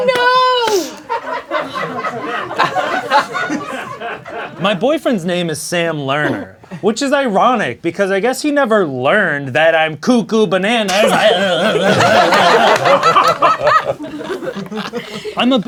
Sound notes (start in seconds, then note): 10.9 grunts; 12.3 crowd laughing